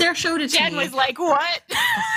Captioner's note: laughter